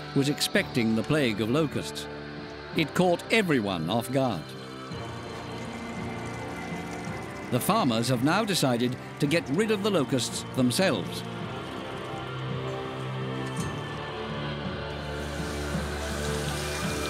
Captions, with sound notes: was expecting the plague of locusts. It caught everyone off guard. The farmers have now decided to get rid of the locusts themselves. [ominous music] [water sloshing]